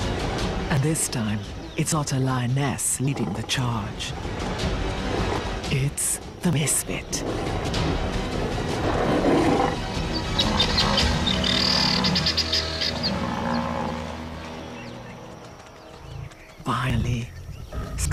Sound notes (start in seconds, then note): 8.1 lion growls; 9.7 chirping